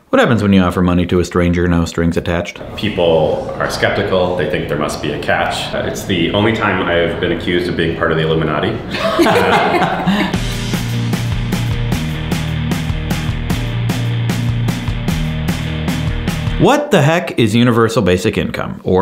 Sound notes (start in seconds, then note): 8.8 all laugh together; 9.2 rock music